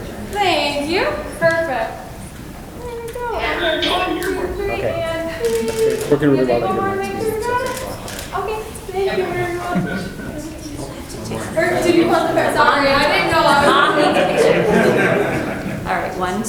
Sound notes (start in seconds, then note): 5.4 camera clicks; 7.9 camera clicks; 13.4 audience laughs